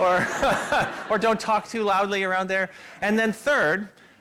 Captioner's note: laughter